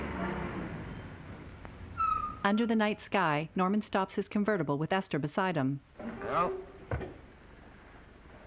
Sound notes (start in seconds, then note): 1.9 tires squealing